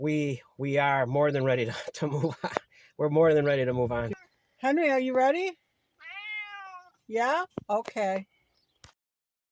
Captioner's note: meow